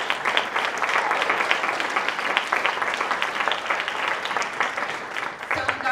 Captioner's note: applause